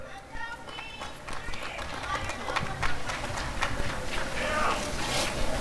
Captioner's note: applause and cheering